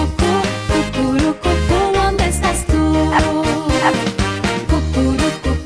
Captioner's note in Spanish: Ladridos